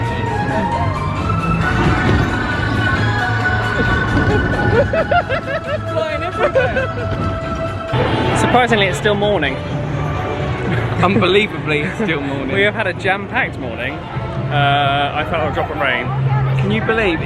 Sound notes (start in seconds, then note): 4.4 laughing